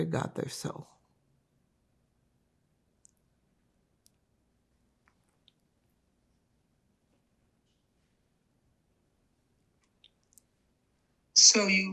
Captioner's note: pause 9 seconds